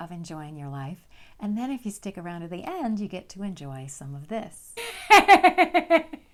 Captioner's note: laughter